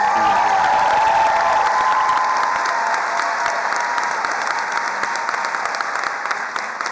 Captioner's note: attendees cheering and applauding